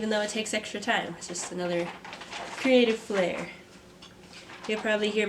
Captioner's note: moving pencils in background